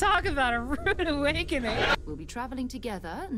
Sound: canned Laughter

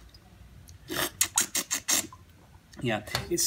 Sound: slurps

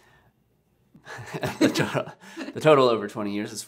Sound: laughing

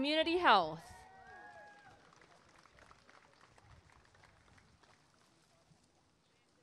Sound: applause and cheering

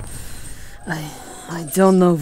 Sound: she hisses angrily, the words grating

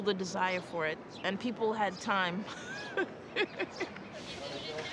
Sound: laughs

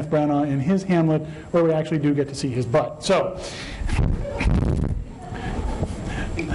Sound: laughter

